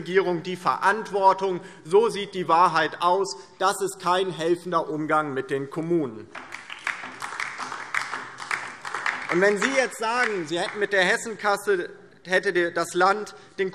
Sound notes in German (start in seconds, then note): 6.3 Beifall DIE LINKE